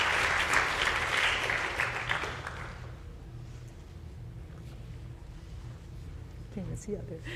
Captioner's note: applause